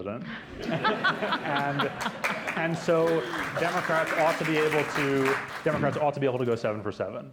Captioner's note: laughter; applause